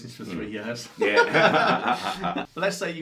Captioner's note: both laughing